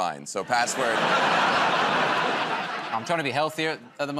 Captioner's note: laughter